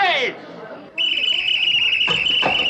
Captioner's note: blows Whistle